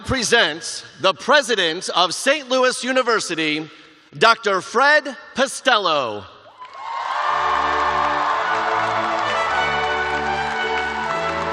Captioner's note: cheers and applause